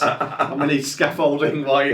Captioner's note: laughs